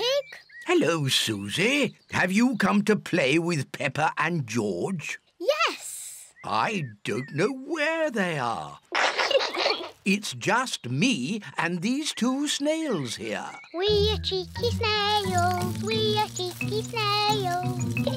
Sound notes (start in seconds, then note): 8.9 peppa pig and george laughing